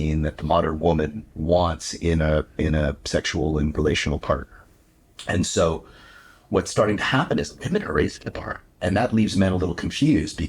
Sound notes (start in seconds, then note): none